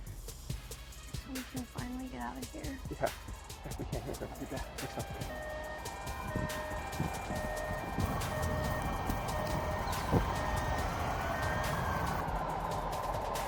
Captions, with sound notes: - We can finally get outta here? - Yeah. (sirens whirring)